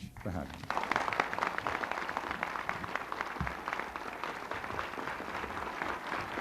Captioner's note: applause